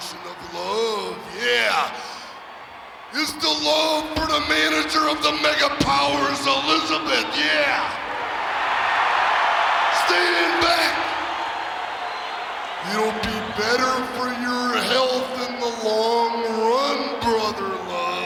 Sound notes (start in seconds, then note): 8.2 audience cheering